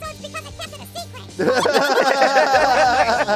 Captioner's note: all laughing